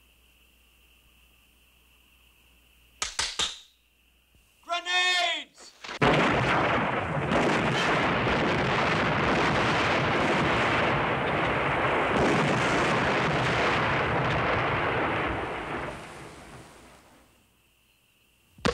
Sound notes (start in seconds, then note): 2.8 crackling; 6.4 explosions